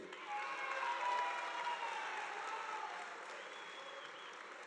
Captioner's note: audience applauding